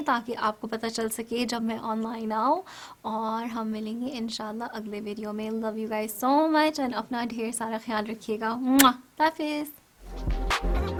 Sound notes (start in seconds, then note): 8.8 blows kiss